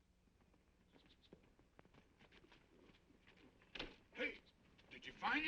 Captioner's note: horse hooves clopping